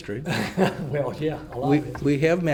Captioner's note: laughs